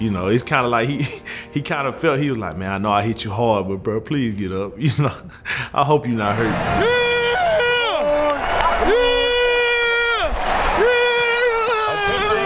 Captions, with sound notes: You know, it's kind of like he kind of felt, he was like man, I know I hit you hard, but bro, please get up. I hope you not hurt. (cheering)